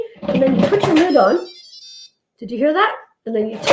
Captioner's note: jingles